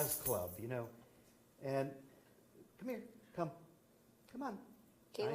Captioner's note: dog harness jingles in the background